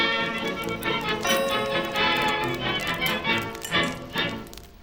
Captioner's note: crackling fire